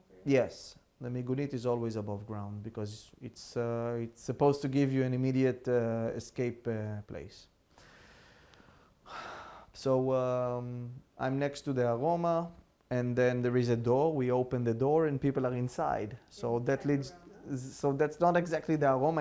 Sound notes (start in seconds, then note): 1.0 hebrew; 9.1 sighing